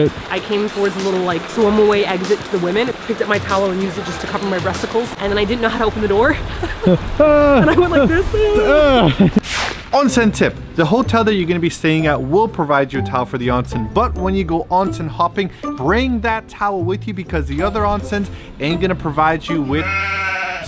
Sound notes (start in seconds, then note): 6.2 laughing